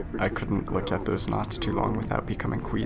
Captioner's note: SFX swimming